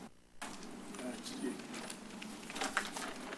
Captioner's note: paper rustles